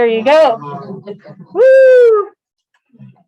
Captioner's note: laughter